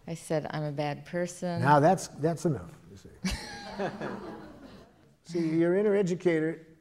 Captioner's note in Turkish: Gülüşmeler